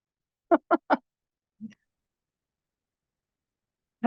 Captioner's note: laughing